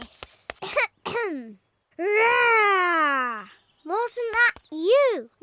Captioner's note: roaring